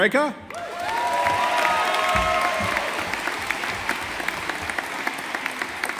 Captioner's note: audience applauding